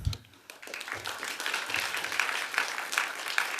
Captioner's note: applause